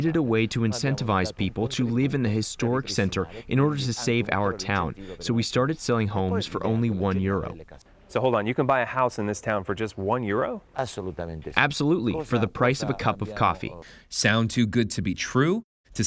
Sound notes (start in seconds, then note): 11.4 through translator